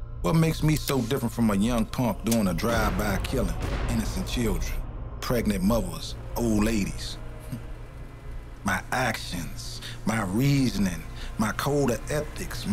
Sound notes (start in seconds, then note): 7.6 Rahman laughing gently